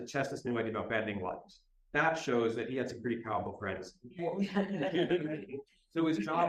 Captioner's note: laughter